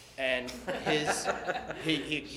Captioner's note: laughter